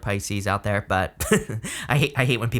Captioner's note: laughing